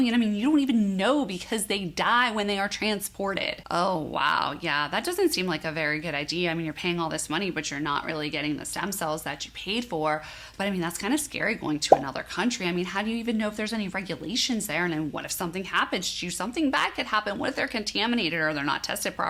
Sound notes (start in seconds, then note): 11.9 bubble popping